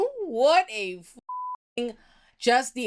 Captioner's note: beep